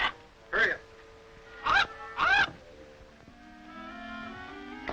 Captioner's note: Sinbad squawking; soft expectant music